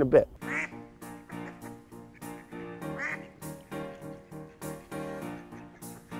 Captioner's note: ducks quacking